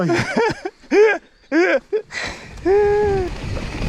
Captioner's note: laughter